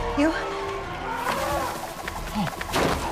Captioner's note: pterosaur calls